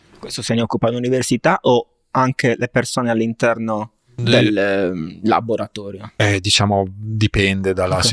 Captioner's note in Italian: schiarire la voce